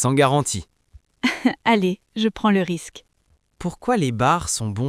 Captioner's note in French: rire